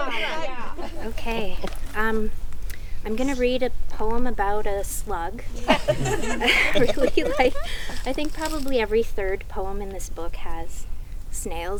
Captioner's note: laughing; group laughs